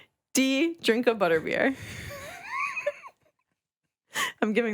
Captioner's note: laughing